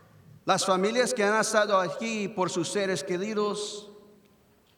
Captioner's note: speaks in foreign language